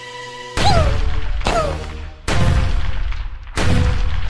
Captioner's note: explosions